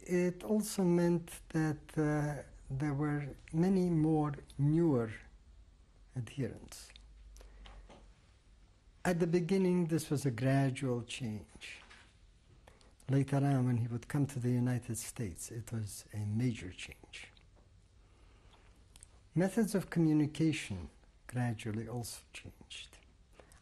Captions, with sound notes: [PAUSES FOR 3 SECONDS] At the beginning, this was a gradual change. Later on, when he would come to the United States, it was a major change. Methods of communication gradually also changed.